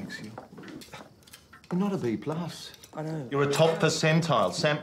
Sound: scoffs

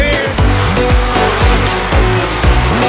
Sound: trike engine sounds

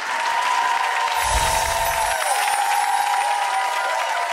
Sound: audience cheers

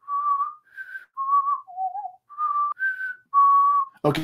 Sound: whistles Jeopardy theme song

